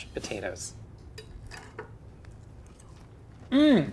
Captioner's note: utensils lightly scraping